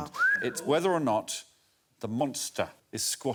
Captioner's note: whistles